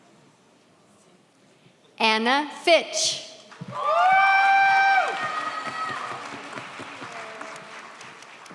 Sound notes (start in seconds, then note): 3.7 audience cheers